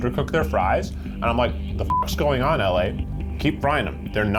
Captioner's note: beep